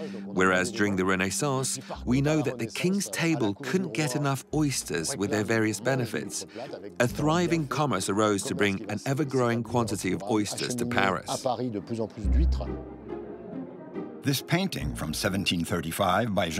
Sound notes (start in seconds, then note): 11.3 speaking in foreign language; 12.0 bright classical music